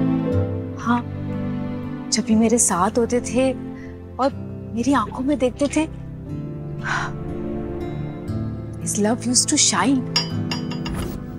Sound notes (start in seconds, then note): 6.8 sighing